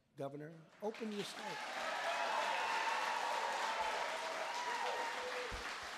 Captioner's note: applause